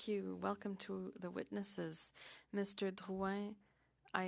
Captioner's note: speaking French